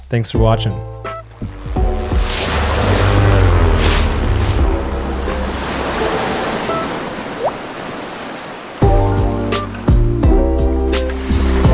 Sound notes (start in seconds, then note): 1.4 airplane motor; 5.3 water splashing; 8.9 upbeat music